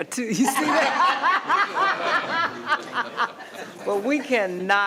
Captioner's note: all laughing